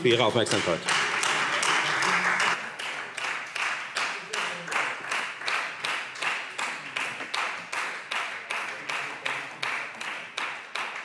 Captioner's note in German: Beifall Freie Demokraten